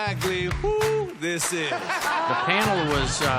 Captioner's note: laughter